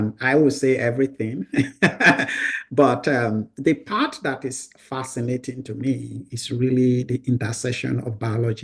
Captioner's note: laughs